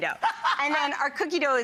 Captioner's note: laughs